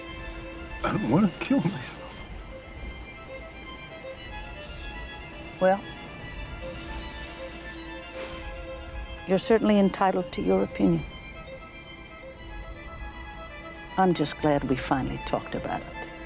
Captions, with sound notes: I don't want to kill myself. Well... (sighs) you're certainly entitled to your opinion. I'm just glad we finally talked about it.